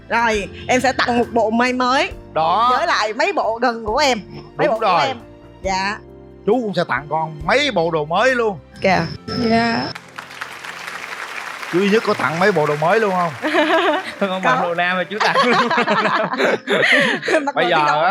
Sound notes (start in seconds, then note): 15.2 laugh